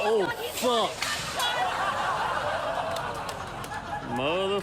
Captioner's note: studio audience laughing